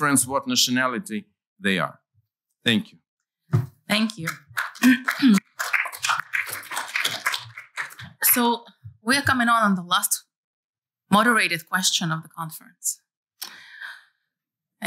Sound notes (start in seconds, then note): 4.0 applause